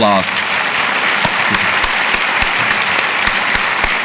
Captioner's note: audience applauds